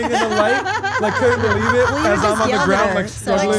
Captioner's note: laugh